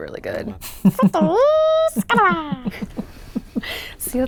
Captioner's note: laughing